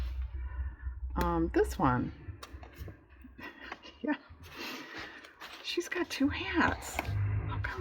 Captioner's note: laughs